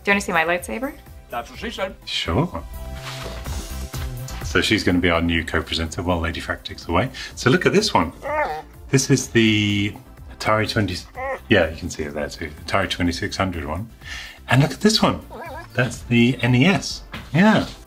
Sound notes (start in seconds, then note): 8.0 puppy groans